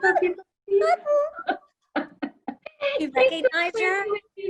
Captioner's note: laughs